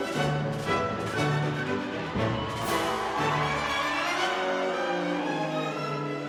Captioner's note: cheers and applause